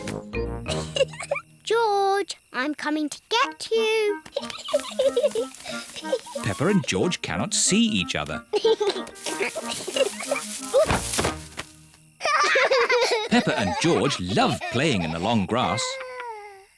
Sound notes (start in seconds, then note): 0.2 giggles; 4.3 giggling; 8.4 giggling; 12.2 both giggle